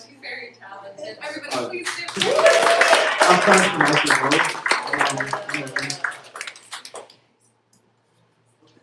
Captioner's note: applause